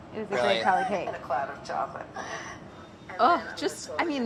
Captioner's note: laughs